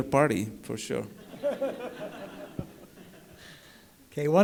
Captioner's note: laughter